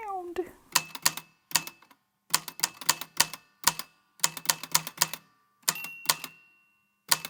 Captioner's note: the typewriter clicks and clacks away, with dings here and there